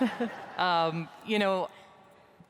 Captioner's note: audience laughs